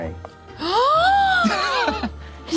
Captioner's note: gasps; laughs